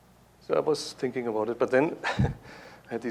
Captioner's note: chuckles